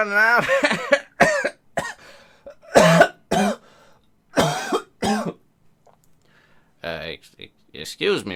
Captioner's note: laughs, then coughs